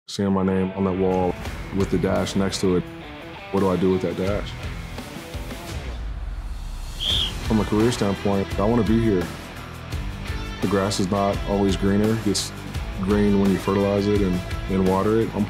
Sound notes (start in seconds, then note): 4.6 upbeat rock music; 6.9 whistle blowing